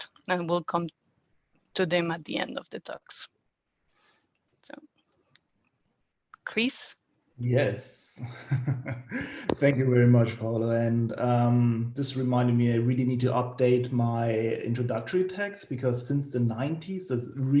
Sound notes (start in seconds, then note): 7.7 chuckles